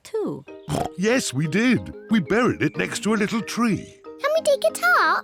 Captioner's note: oinks